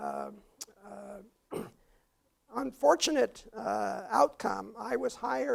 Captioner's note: cough